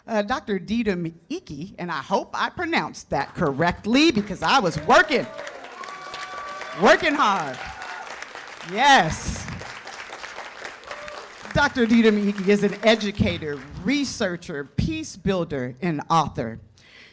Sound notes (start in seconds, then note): 7.6 cheers and applause